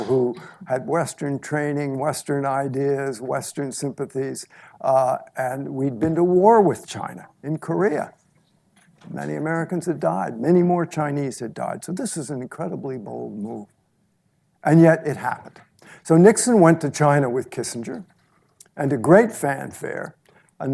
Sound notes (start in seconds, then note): none